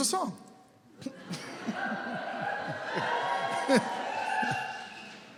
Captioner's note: laughter